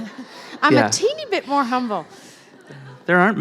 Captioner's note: laughter